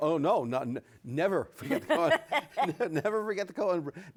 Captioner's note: laughs